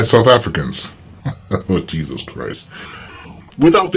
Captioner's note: laughing